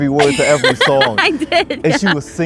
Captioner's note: laughing